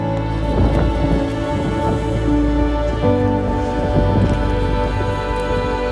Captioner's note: wind sounds